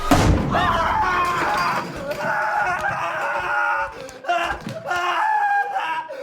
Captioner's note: screaming